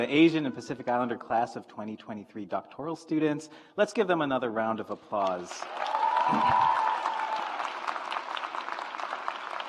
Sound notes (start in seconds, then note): 5.5 audience applauds